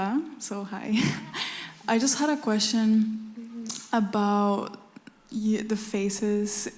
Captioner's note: laughs